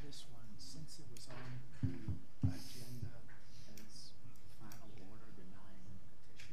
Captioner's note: board members quietly discussing